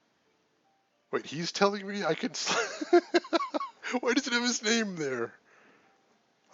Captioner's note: laughs